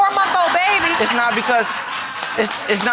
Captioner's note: audience laughing